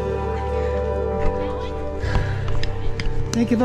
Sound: crowd chattering

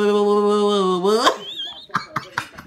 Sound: laugh

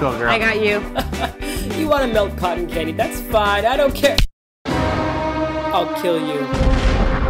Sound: laughs

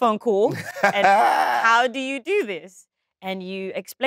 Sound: John laughs

